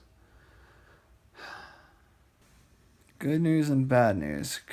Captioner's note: sighs